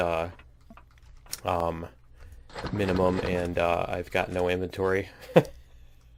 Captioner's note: laughs